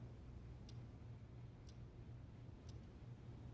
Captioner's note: ticking